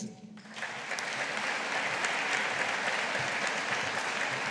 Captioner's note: audience applauding